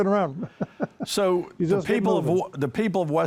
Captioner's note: laughs happily